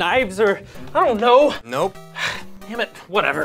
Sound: Ian sighs

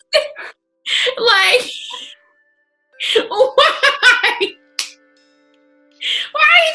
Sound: laughing; laughing

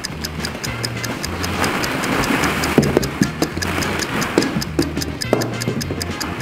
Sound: lively instrumental music; timer ticking

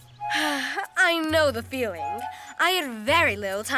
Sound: sighs

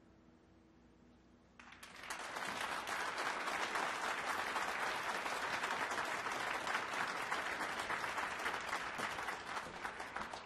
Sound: applause

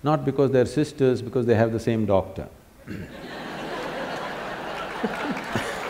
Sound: laughter/Applause

